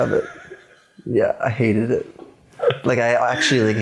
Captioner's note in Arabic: يضحك